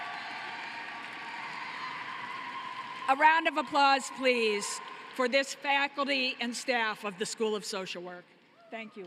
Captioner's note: cheering and applause